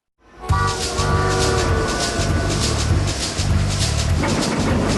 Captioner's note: train whistle blowing